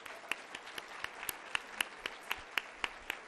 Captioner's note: applause